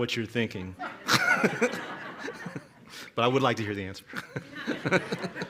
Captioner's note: laughter